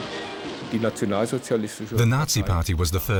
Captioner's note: man speaking german